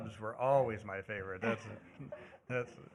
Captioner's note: laughter